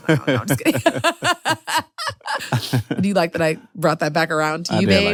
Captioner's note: laughs